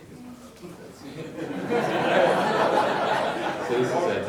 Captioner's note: laughing